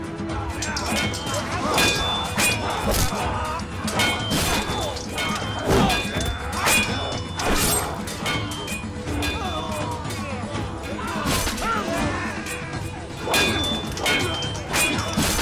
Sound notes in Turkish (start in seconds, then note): 0.5 Çarpışma sesleri